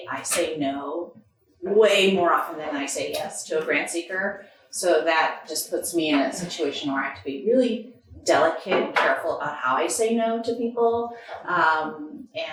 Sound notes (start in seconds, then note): none